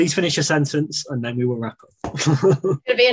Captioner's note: chuckles